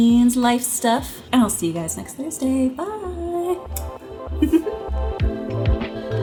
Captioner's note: upbeat electronic music; giggles